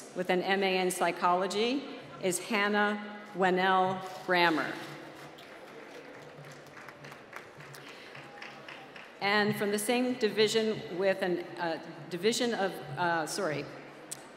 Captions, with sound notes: with an MA in Psychology is Hannah Wenell Bramer. (applause) And from the same division with an division of, sorry,